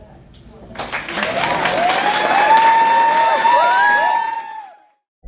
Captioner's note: applause